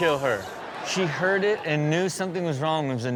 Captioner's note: audience laughs